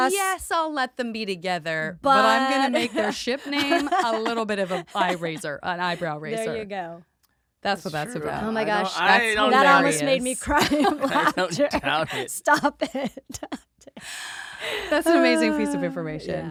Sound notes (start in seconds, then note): 10.5 laughing